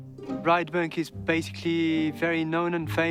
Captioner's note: with French accent